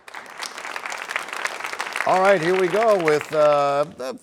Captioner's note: applause